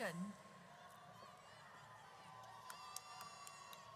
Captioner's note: audience cheers